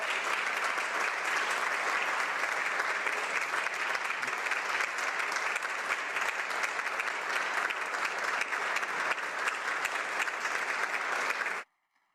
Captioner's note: applause